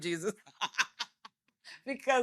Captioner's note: laughing